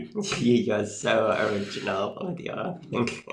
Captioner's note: laughs